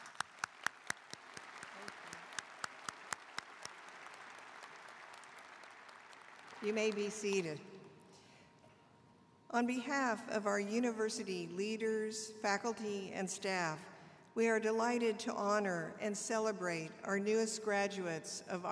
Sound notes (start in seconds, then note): 3.8 applause